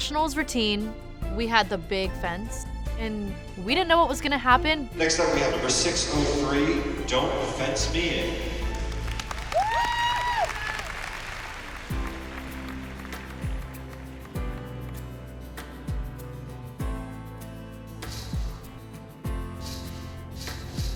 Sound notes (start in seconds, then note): 7.2 cheers and applause; 9.8 cheerful instrumental music playing; 16.4 fence rattling